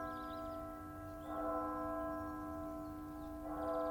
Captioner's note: bell ringing